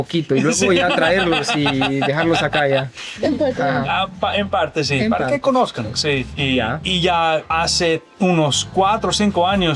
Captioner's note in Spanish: risas